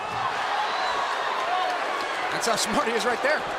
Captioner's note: crowd cheering